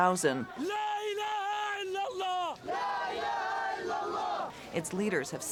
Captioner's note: chanting in foreign language